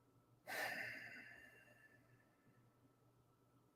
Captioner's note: sighs